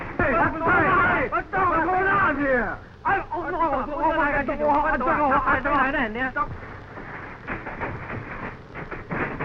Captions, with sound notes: (men shouting) - What's going on here? (man speaking in foreign language)